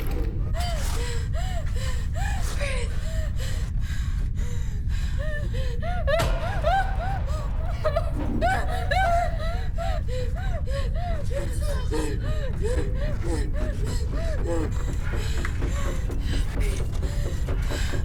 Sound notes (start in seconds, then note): 0.0 metal scrapes; 0.3 Abby pants; 5.9 Abby whimpers and pants; 13.4 urgent music